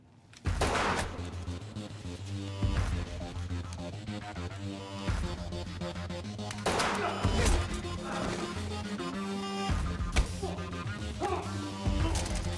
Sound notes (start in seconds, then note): 0.5 gunshot firing; 0.6 tense music; 6.6 gunshot firing; 6.7 tense music continues